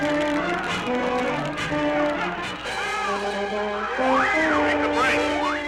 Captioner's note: dramatic music continues; men yelling continues